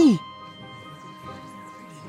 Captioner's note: concerned voices